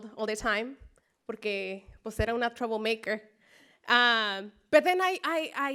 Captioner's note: spanish speech